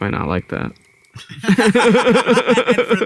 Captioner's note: all laugh